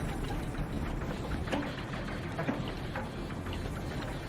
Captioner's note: engine cranksks, doesn't turn over